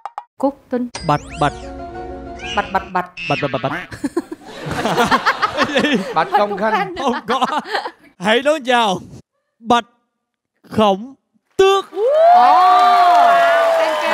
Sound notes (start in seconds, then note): 2.4 chuckles; 5.1 laughing; 11.9 applause